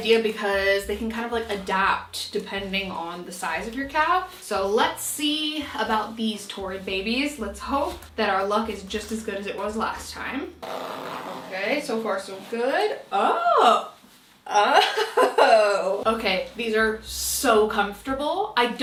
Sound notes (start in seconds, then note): 10.5 zipper whooshing; 14.6 laughing